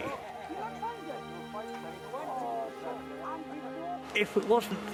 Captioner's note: people chattering